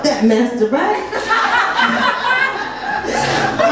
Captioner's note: audience laughs